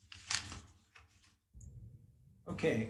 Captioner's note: paper flapping